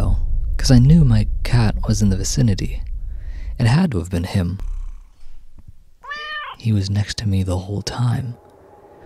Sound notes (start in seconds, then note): 6.0 hears meow next to her